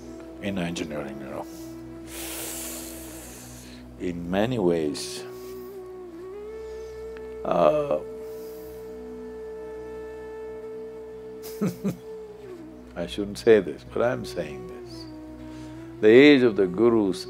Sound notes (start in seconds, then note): 11.4 laughs